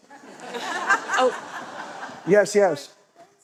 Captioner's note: laughter